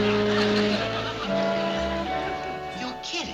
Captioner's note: whispering